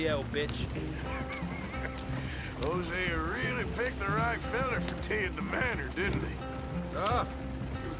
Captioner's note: laughs